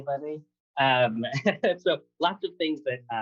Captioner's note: laughter